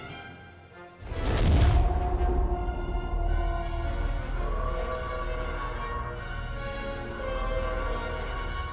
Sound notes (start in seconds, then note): 1.2 exiting hyperspace sound effect; 3.6 eerie siren